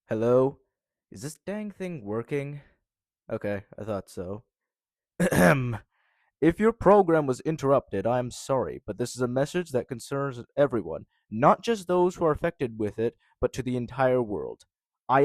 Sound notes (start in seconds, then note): 5.2 short pause with a cough